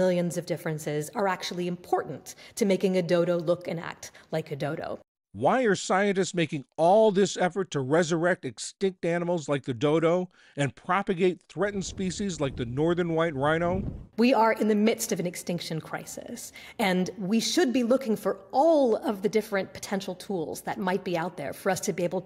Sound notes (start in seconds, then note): 5.8 voice-over